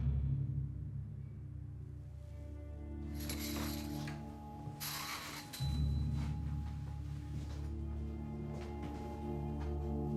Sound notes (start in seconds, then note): 0.1 somber music; 4.6 blinds clattering